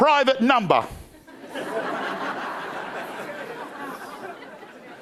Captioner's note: crowd laughing